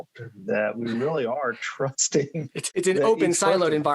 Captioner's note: laughs